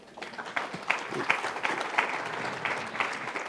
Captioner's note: applause